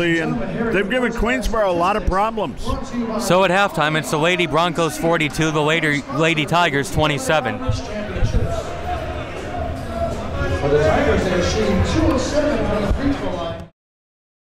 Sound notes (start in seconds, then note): 8.1 crowd talking